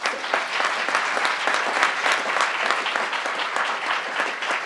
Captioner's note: crowd applauding